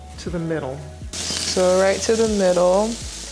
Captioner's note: pork sizzling